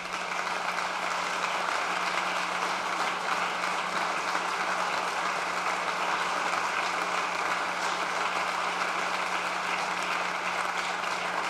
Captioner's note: applause